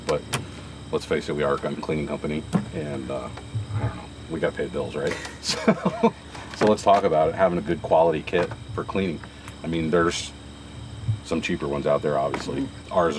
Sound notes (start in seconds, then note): 5.0 laughs